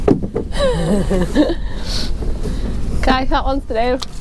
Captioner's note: laughing